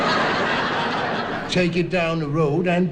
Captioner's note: audience Laughing